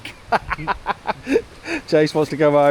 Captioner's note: laughing